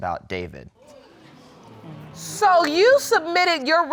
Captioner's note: audience exclaiming